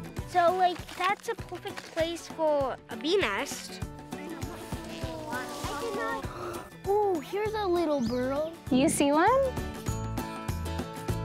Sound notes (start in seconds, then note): 4.2 children chattering